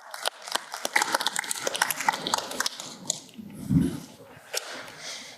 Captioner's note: applause